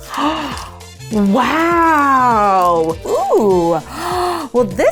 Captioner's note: gasping